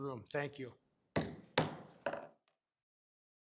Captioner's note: gavel pounding; audio silence